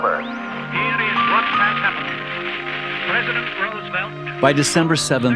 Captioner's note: man On Radio